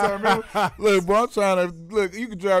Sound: laughing

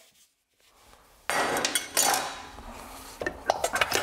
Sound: metal rumble

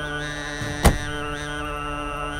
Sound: Jeep door closes

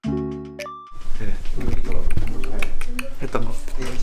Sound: kisses

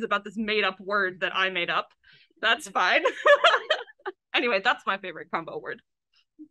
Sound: laughs

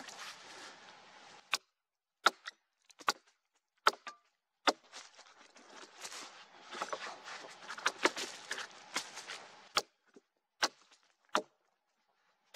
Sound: axe knocking on wood, wood cracking, leaves rustling

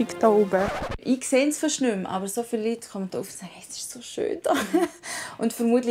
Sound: laughs

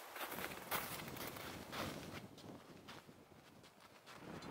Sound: wind blowing

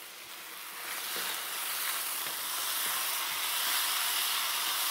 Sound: chicken sizzling

